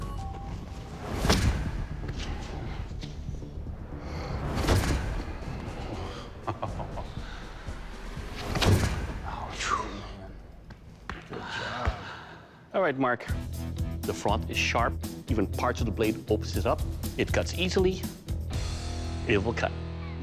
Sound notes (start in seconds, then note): 5.0 exhales; 6.0 laughs